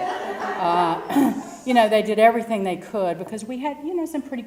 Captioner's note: laugh; cough